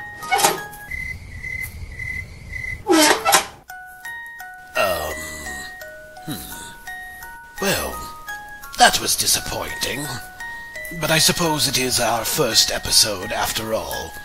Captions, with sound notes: [cricket sounds] Ummmm... hmmm... welll... that was disappointing. But I suppose it is our first episode after all.